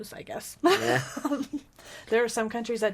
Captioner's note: laughing